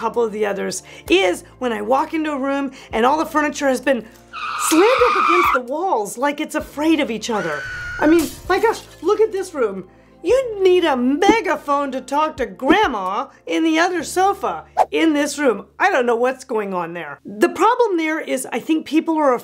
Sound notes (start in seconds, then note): 4.3 tires screeching; 7.3 screaming; 8.1 shattering glass